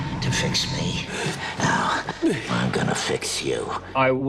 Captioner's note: panting